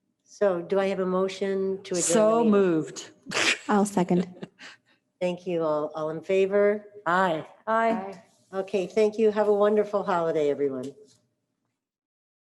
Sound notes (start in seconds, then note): 4.1 laughs